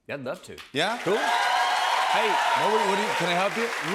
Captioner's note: cheers and applause